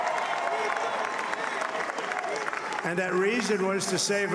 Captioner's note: audience cheering